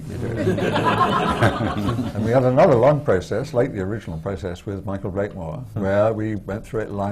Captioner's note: laughter